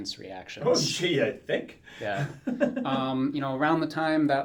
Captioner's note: laughs